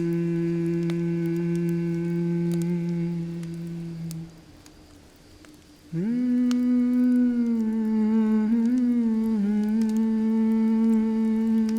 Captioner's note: humming continues